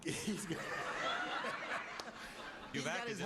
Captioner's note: laughter